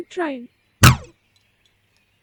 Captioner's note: stun gun shot; cat walking